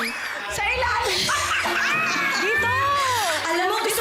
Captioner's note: laughs loudly